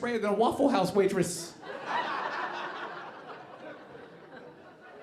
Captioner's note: audience laughing